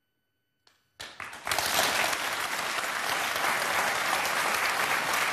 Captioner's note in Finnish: Raikuvat aplodit